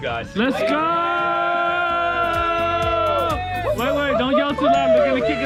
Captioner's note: cheering